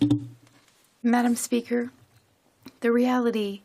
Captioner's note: speaking French